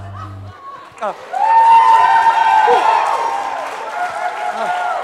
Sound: applause

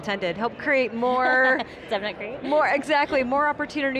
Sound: laughs

